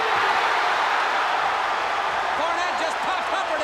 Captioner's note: crowd cheering